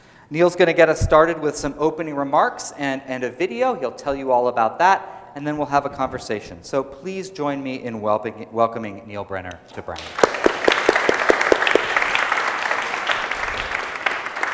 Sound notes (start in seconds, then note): 9.8 applause